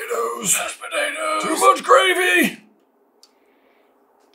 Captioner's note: whisper; raspy